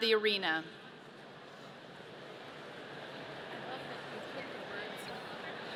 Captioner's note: audience murmurs